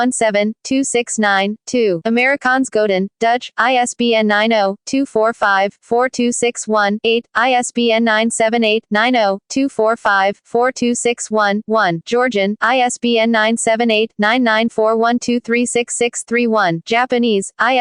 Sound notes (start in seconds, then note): 0.0 Korean; 15.1 Georgian